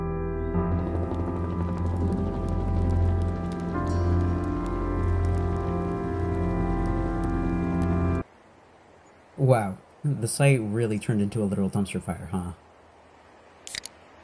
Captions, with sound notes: [ helicopter lets goooo ] [ fire crackling ] - Wow... The site really turned into a literal dumpster fire huh? [ can opening, thorsty ]